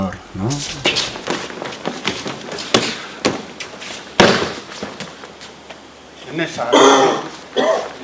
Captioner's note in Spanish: sonido de desplazamiento sobre tatami